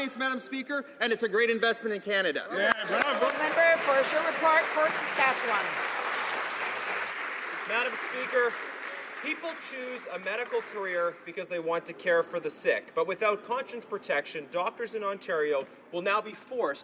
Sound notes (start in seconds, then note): 5.7 some Applause